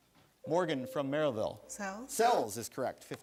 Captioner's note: buzzer sounds